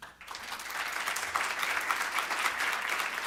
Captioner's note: applause